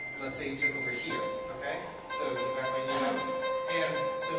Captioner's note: dings sound at a steady pace